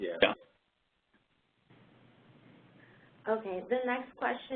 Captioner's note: 2 seconds pause